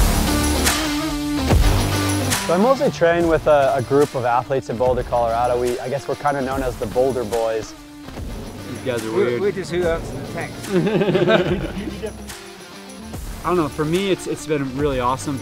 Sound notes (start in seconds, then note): 0.2 rock music; 9.8 men laughing